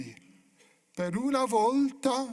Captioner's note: speaking italian